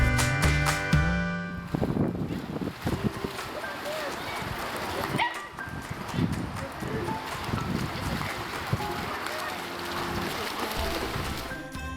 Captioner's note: dog barks